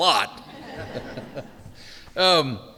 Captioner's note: chuckles